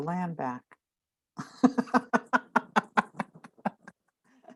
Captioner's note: both laughing